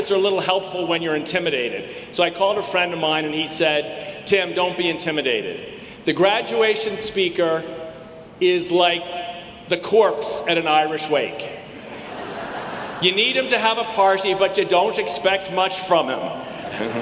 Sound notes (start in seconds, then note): 11.6 audience laughing; 16.6 audience laughing